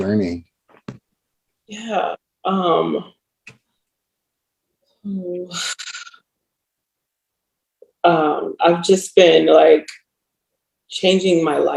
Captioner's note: sighs